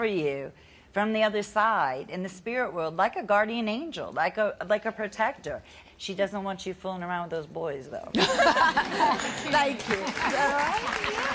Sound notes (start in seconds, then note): 8.2 audience laughing